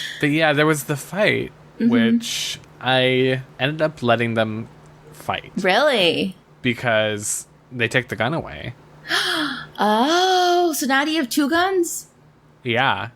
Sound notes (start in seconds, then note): 0.0 laughs; 9.5 gasps